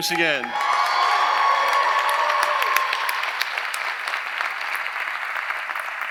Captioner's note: audience applauding; audience cheering